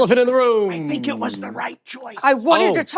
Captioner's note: whispering